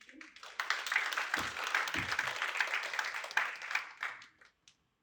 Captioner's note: applause